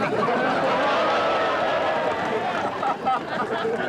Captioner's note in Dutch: mensen lachen